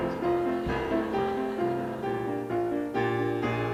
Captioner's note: audience laughter